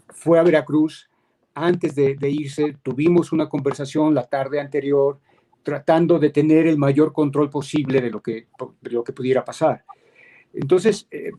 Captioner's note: speaking in Spanish